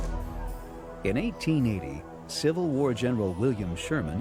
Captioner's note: voiceover